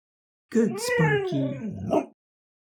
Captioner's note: dog barks